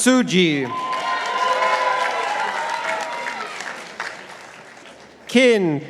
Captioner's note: participants applauding